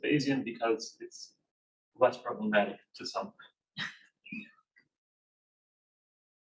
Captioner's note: chuckles